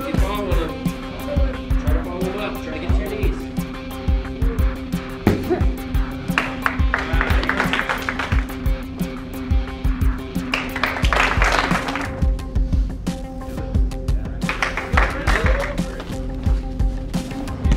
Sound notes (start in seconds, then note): 6.3 clapping; 10.4 applauding; 14.4 applauding